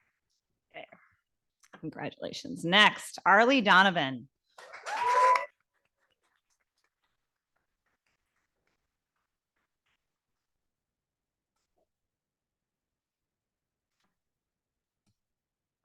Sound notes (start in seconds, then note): 4.7 audience applauding